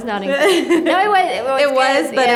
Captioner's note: laughs